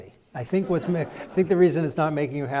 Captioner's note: crowd laughs